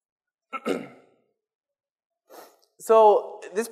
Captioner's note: clears throat